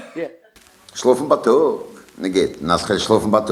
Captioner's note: speaking yiddish